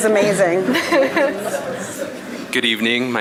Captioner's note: audience laughing